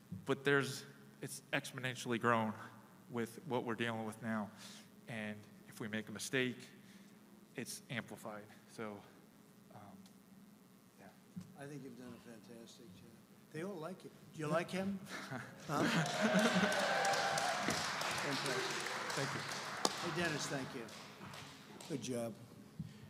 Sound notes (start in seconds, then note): 15.6 laughter and applause